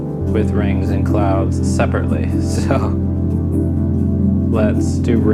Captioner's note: laughs